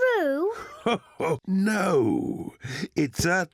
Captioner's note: chuckles